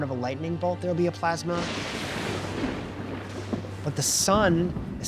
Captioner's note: lightning crashing, thunder booming